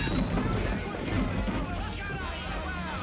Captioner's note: men exclaiming